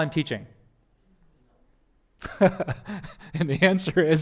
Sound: pastor: Laughter

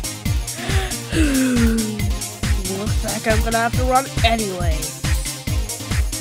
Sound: sighs

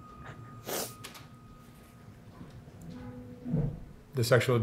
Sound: sniffling

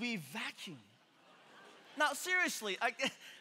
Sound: congregation laughing

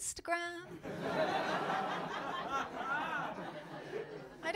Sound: laughter

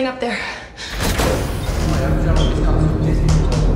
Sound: door opens

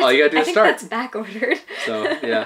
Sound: laughs

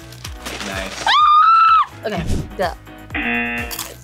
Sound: screams; buzzer

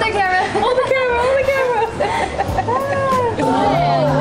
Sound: laughs

